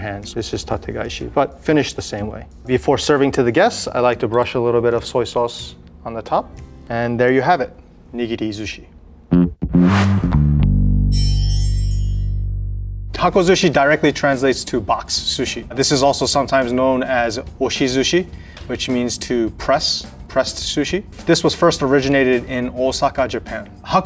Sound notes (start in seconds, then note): 9.2 text chimes; 9.3 jaunty music